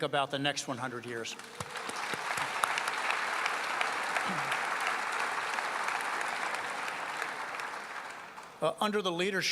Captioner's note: applause